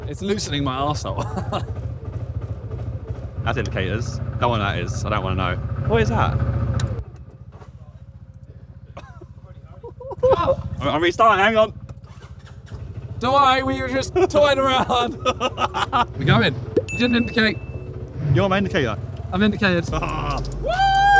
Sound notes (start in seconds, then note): 1.1 laughs; 7.0 engine revving fades; 8.8 Simon and Josh laughing; 13.9 Josh laughing